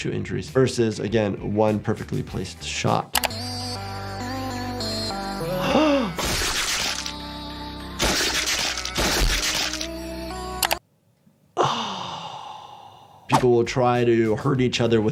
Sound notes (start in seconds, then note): 2.9 intense music; 5.4 doctor gasps